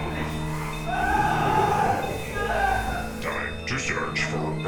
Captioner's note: victim screaming